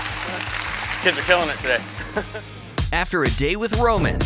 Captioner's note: laughing; chuckles